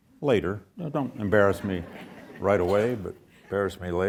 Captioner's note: audience chuckles